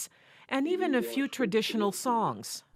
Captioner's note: speaking Native Language